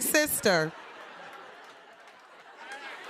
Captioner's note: laughter